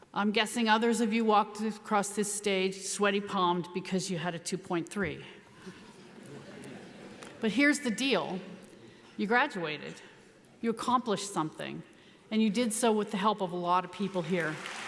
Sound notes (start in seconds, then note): 5.9 audience laughs